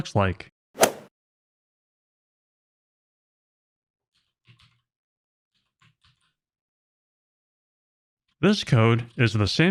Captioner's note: golf ball hit sound effect